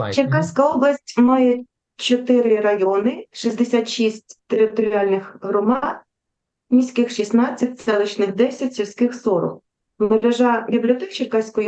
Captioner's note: foreign Language